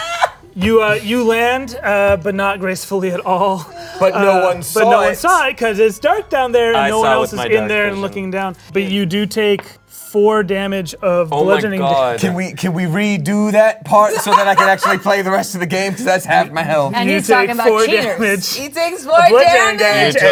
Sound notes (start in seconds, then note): 14.0 laughing